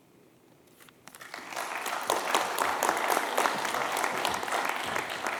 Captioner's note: applause